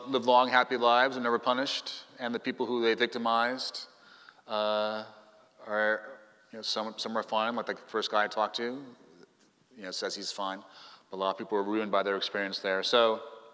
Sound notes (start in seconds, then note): none